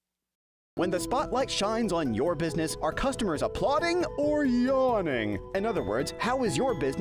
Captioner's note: voiceover